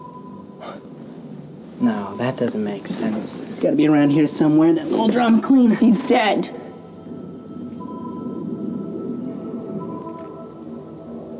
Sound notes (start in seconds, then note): 0.7 Babcock scoffs; 7.7 ominous music continues